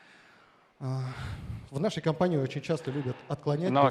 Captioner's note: speaking russian